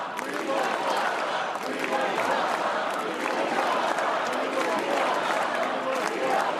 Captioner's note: cheers and applause